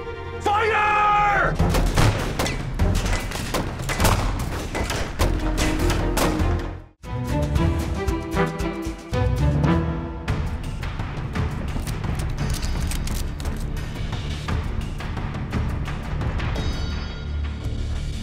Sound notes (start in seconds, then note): 1.8 gunfire; 11.7 guns cocking